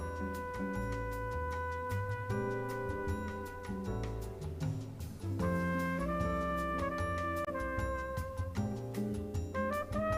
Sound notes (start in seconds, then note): none